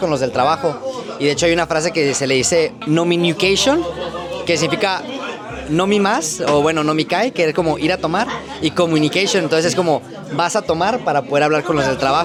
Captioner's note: drinking